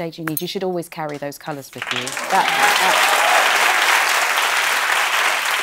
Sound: cheering and applause

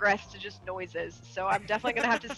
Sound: laugh

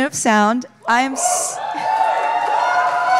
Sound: cheers

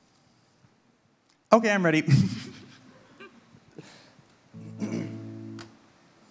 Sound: giggles

